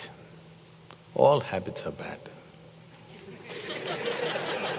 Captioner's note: laughter